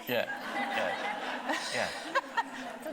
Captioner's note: audience laughing; laughing